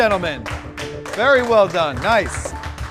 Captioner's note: applause